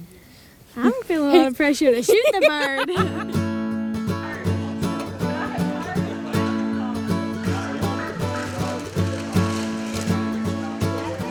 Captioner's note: laughter